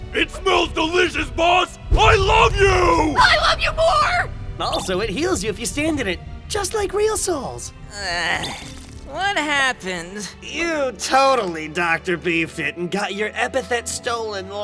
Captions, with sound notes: It smells delicious, Boss! I LOVE YOU! I LOVE YOU MORE!!! Also it heals you if you stand in it! Just like real souls! (moan) What happened? You TOTALLY Dr. Beefed-It and got your epithet stolen